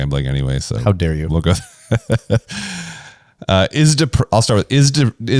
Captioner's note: laughs